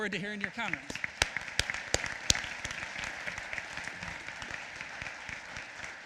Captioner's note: applause